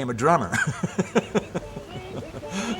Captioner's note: laughs